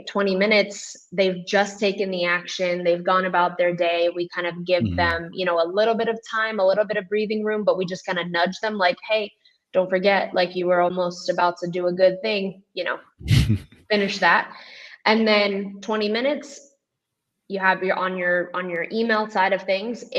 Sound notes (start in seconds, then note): 13.2 chuckles